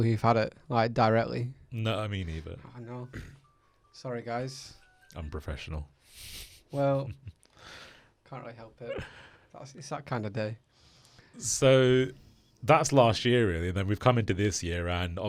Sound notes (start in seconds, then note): 4.5 phone rings; 6.2 chuckles